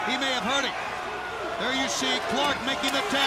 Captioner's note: crowd chatter